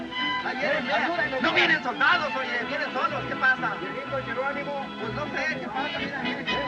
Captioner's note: spanish Continues